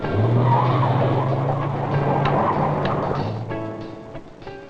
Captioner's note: tires screeching